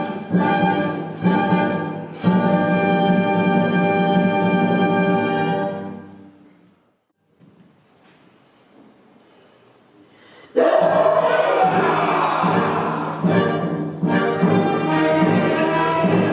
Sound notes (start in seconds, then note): 6.8 A tense silence; 10.5 A ferocious battle-roar from ARAC and the BROTHERS